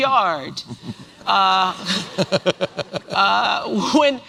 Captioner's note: laughter